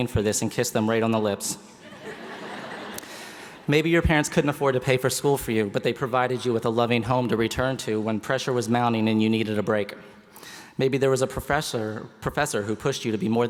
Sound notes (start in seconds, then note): 2.0 laughing